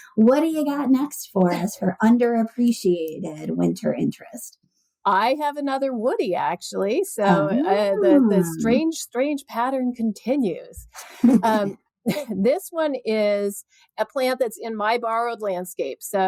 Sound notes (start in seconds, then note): 10.9 laughter